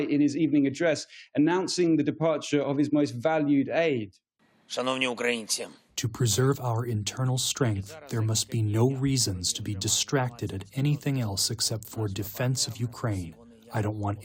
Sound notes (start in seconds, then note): 6.9 through translator